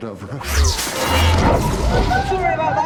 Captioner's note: whooshing